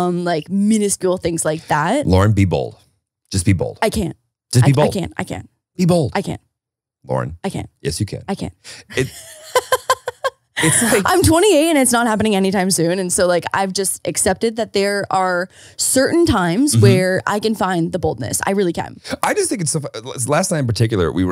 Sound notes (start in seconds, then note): 8.9 laughs